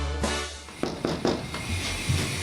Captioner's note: knocking on door